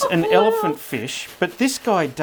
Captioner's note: laughing